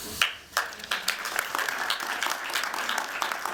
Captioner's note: applause